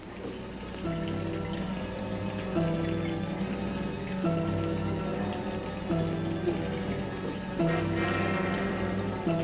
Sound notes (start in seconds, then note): 0.1 ominous music; 0.6 machines whirring